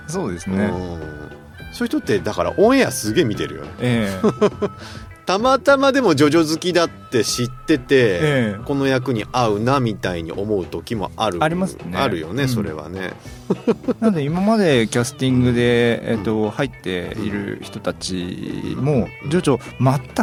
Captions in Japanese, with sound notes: そうですね。 うん。そういう人ってだからオエアすげえ見てるよね。 ええ、[笑い] たまたまでもジョジョ好きだって知ってて、 この役に会うなみたいに思う時もある。 ありますね。 あるよね。それはね。 なんで今までキャスティングで、えっと、入っている人たちも徐々全く知らない方もいらっしゃれば